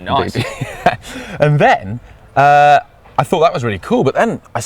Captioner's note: laughs